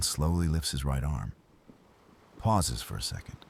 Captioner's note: wind Blowing